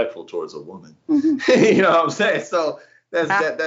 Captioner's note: laugh